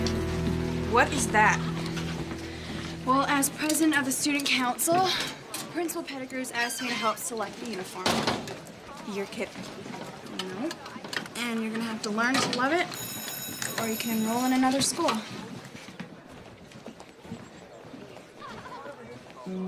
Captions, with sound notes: - What is that? - Well, as president of the student council, principal Pettigrew has asked me to help select the uniform. - You're kidding. - No, and you're going to have to learn to love it. (school bell rings) Or you can enroll in another school.